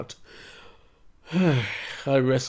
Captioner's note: sighs